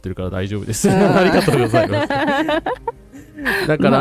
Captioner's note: laughter